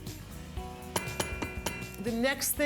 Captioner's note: tapping